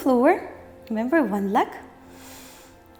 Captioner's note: inhales